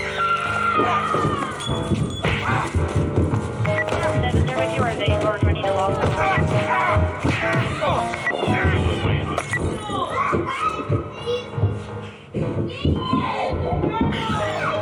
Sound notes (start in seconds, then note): 3.7 banging; 3.7 crashing; 3.7 police radio requesting backup